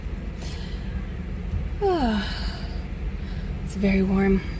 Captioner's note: tired, happy sigh